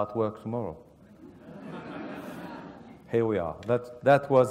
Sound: laugh

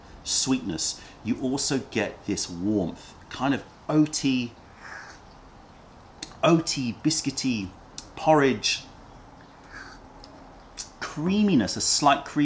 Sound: sips tea

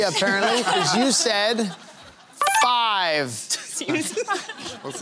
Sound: laughter

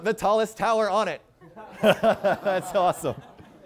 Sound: laughter

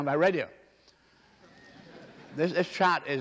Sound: laughter

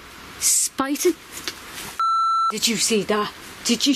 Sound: camera beeps

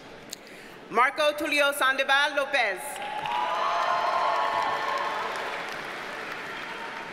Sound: audience cheers and applauds

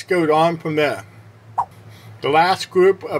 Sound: swipe Sound

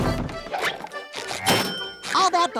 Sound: dinging

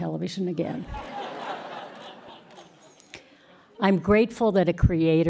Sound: laughter

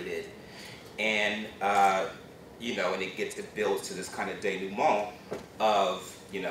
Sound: non-english speech

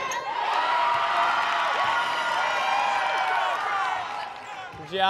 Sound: crowd cheering

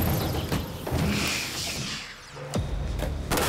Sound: gas hissing

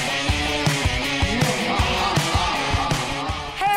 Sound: evil laughter

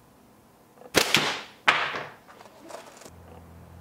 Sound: thwack

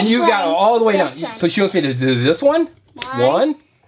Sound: voiceover

